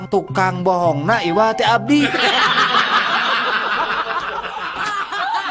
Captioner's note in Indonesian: tertawa